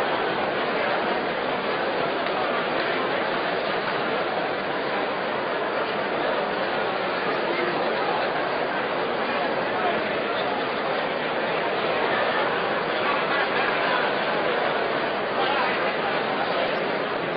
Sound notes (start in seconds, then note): 6.3 general crowd noise